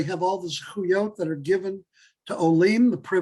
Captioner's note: Hebrew